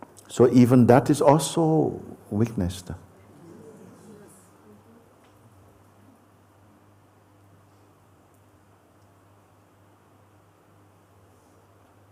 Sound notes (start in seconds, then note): 5.9 silence